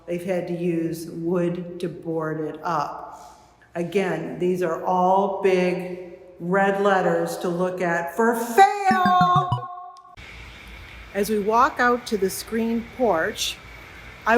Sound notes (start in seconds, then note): 8.9 electronic beeping